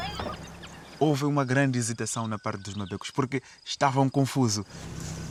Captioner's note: speaking Portuguese